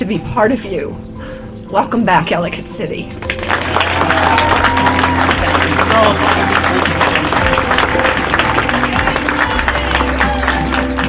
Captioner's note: applause